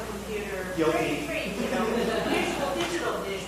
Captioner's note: audience laughing